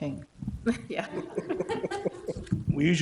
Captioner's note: everybody laughing